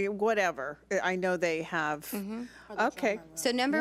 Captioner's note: speaks off mic